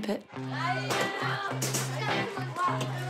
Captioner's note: children chatter